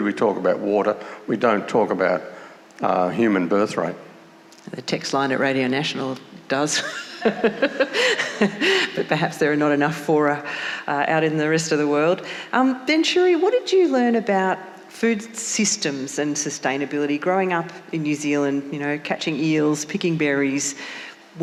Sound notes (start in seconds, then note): 6.6 laughing